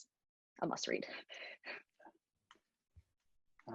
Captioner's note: sighs